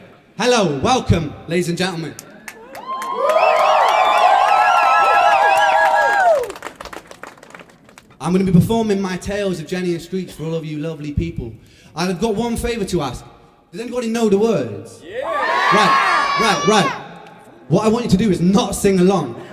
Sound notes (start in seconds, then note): 2.2 cheers and applause; 15.0 cheers; 19.3 laughter